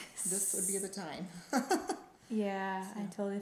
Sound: laughing

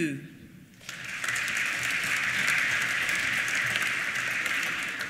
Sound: applause

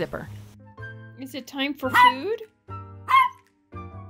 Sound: bark Bark

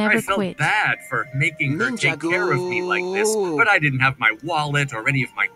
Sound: shouting with glee

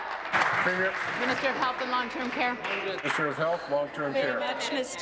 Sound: applause

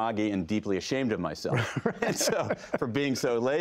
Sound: laughter

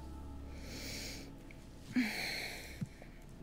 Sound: sighs

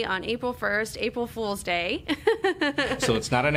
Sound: chuckles

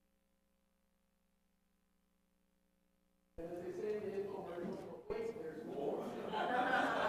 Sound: laughter

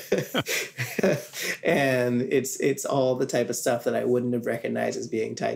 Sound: laughs

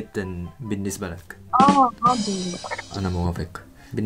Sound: Arabic

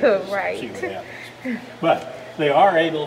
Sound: laughing

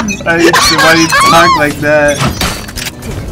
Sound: laughter; laughing

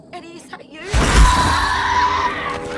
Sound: Alice screaming; Eddy shrieking

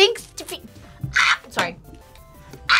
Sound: screams; React laughs; screams

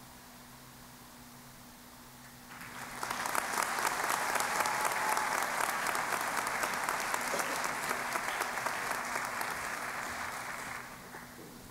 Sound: applause

